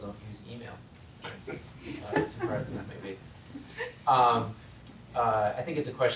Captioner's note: laugh